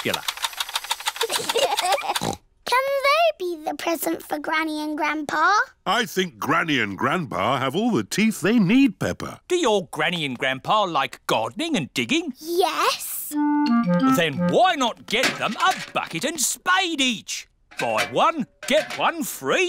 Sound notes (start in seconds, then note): 1.2 both laugh